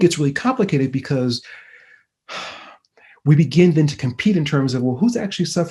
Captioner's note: sighing